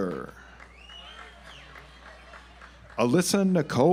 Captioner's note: audience applauds